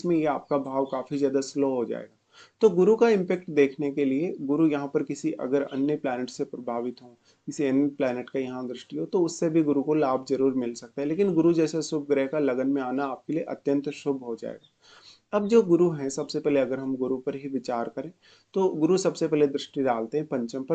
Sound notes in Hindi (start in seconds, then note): 14.6 नाक से की जाने वाली आवाज़